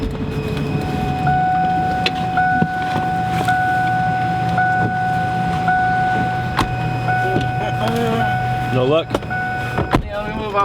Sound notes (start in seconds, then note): 1.3 car beeping; 7.6 laughs